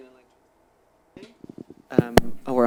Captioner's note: audio cutting out